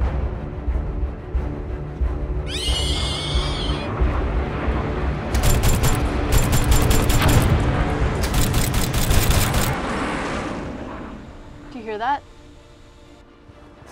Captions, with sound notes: [shrieks] [jets, gunfire and explosions] [sound of plane in sky] Do you hear that?